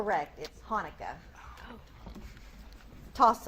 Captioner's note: multiple students whisper